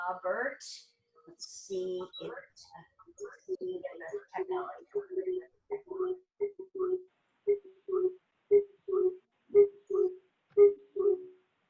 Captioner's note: beeping sound